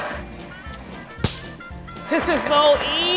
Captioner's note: claps